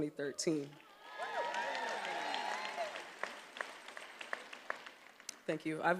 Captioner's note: attendees applauding and cheering